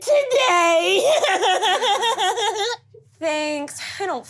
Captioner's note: giggles